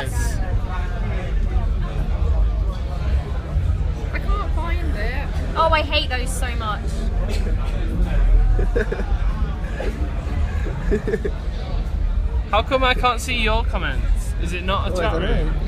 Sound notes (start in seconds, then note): 8.5 laughter